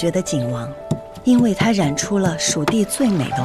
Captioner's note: grinding and mixing